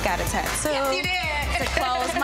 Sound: giggling

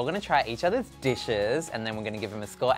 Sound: chime

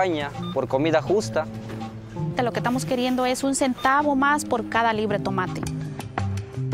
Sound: speaking Native Language

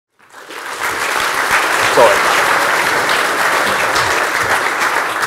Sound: applause

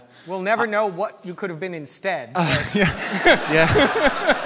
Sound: audience laughter

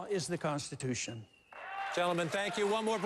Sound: applause

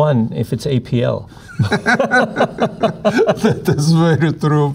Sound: both laughing

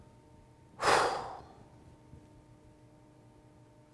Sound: sighing

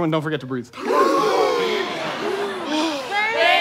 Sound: gasps for air

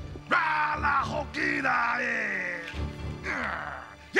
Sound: non-english speech

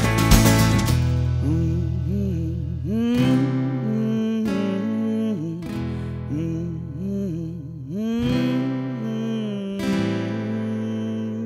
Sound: humming

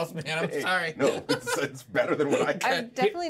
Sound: speaker laughs

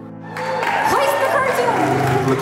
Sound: colleagues cheering

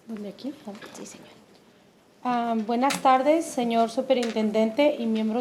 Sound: speaking in foreign language

